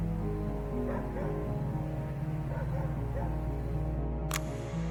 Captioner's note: distant dog barks